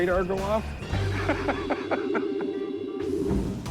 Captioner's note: laughter